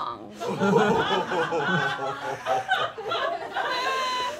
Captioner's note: all laughing